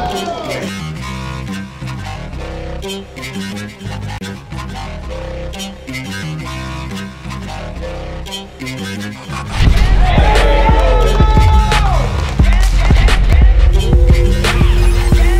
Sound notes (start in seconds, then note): 0.1 electronic music; 9.5 crowd cheering